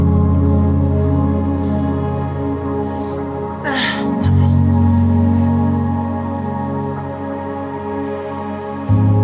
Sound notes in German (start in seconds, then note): 0.0 ätherische Musik geht weiter; 3.6 grunzt